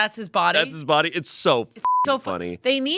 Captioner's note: beep